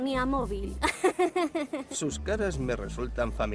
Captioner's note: giggles